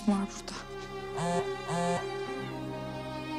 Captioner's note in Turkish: Telefon Sesi